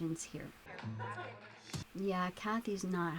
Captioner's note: chatter